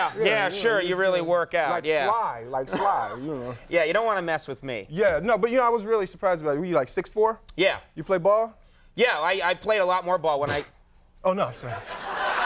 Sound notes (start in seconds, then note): 10.5 Will scoffs